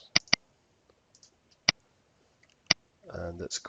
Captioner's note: mouse clicking